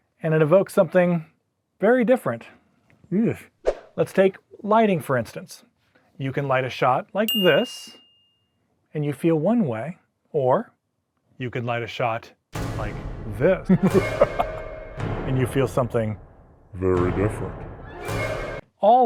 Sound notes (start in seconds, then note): 7.3 ding; 12.5 suspenseful music; 13.6 evil laugh; 17.6 suspenseful music